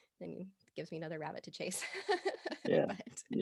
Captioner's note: laughing